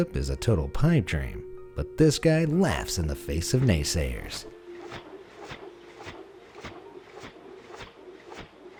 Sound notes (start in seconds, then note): 4.8 gentle whirring